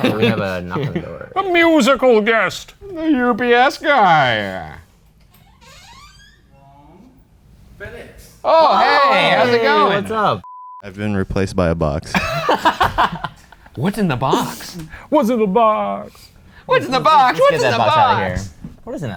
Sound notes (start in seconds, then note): 0.0 laughs; 5.2 door creaks; 12.1 laughing